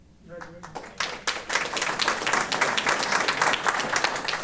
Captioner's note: applause